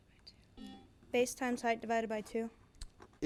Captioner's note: buzzer buzzes